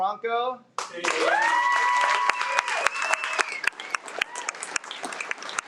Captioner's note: audience cheers and applauds